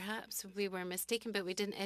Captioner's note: speaking french